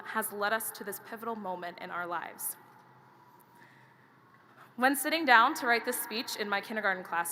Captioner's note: none